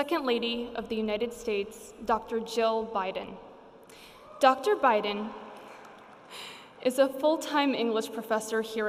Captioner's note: cheering; laughs